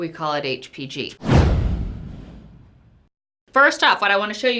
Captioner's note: intensifying swoosh